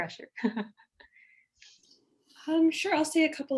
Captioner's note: laughing